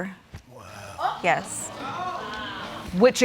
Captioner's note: audience exclaiming